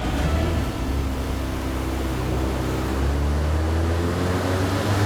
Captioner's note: car engine revving